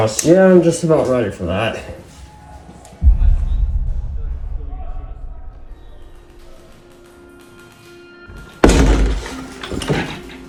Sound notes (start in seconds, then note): 3.1 distant yelling & airsoft gunfire; 6.0 ominous music